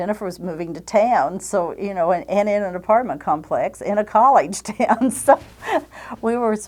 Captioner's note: chuckles